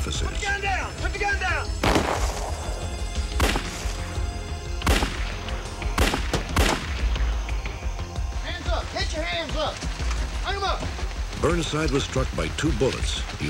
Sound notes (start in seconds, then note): 1.8 gunshot; 4.6 gunshots